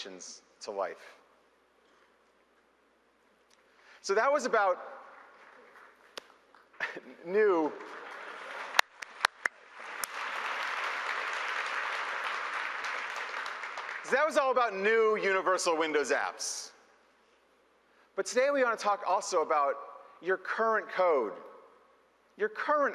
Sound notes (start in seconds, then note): 10.3 applause